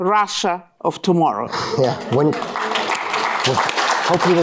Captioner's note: applause